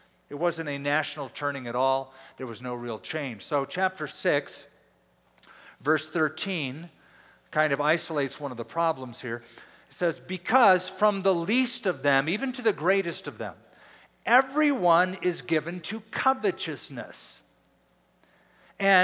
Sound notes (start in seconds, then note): none